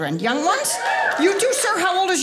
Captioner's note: audience cheering